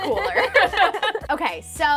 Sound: both laugh

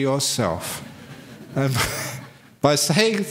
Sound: laughs

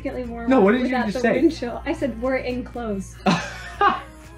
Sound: laughs

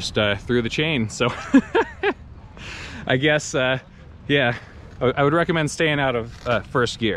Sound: laughs

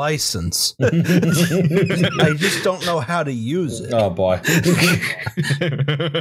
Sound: laughter

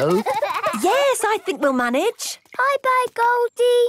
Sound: giggling

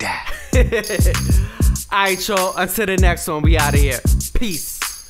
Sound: laughing

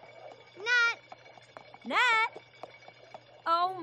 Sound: hoofbeats tapping

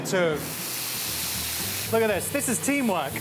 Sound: sizzling

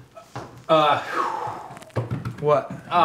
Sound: exhales

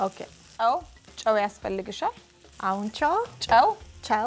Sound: speaking Amharic

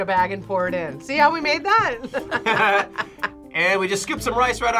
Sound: both laugh

